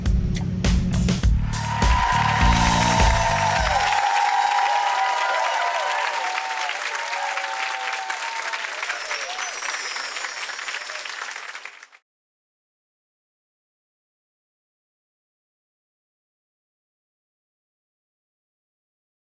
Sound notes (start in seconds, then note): 0.2 audience clapping; 2.8 gently chiming bells